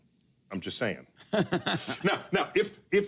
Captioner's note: laughing